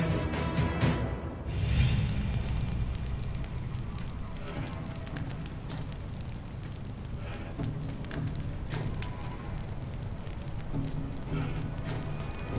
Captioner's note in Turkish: Ateş Sesleri